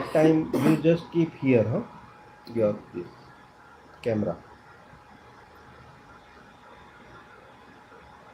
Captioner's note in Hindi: गला साफ़ करने की आवाज़